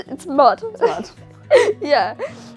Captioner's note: laughter